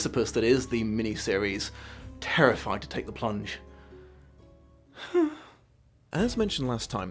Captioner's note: sigh